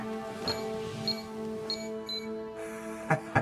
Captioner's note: Billy Ray chuckles; safe keypad bleeps; Billy Ray chuckles